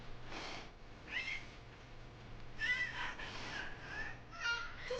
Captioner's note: baby cooing